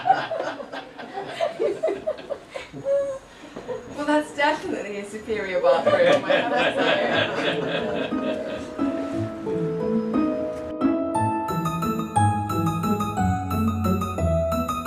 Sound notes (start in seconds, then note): 5.7 everyone laughs; 8.4 more laughs